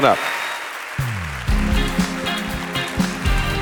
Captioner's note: audience applauding; upbeat music